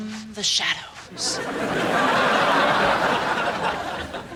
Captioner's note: audience laughing